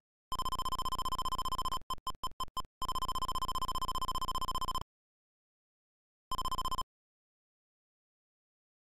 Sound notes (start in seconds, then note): 0.0 text scroll noise